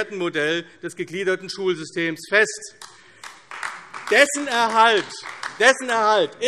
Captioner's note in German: Beifall AfD